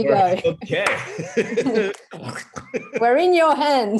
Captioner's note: laugh